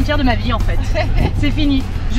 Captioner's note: laughs